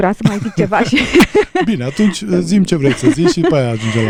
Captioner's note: laughter